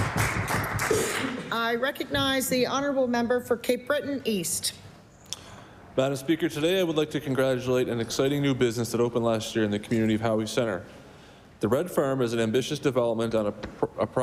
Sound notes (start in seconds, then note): 0.0 applause